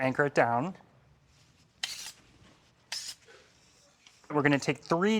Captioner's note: knife and tongs scrape